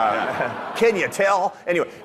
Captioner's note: audience laughing